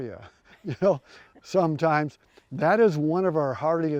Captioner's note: chuckles